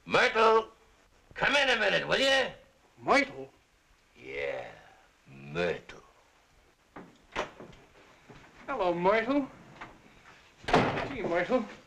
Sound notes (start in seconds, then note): none